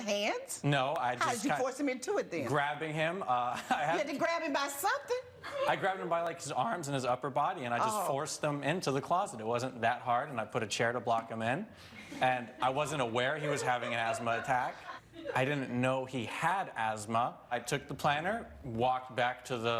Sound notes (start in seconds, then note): 3.2 laughs